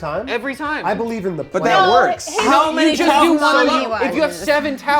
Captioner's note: overlapping chatter